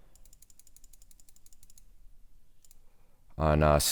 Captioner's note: clicking